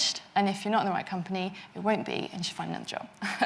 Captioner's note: chuckles